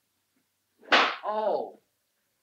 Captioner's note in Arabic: صفعة على اللوح